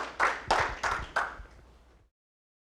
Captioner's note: applause